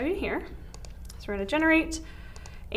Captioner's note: mouse clicks